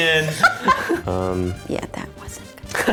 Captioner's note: laughs